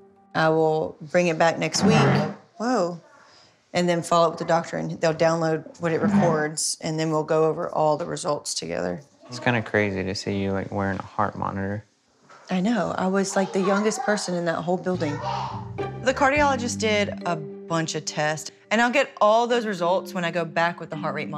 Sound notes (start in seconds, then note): 1.8 chair moves